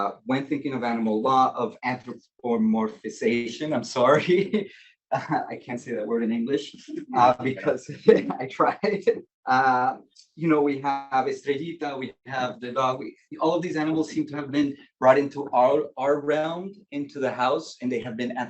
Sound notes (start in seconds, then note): 11.2 speaking Spanish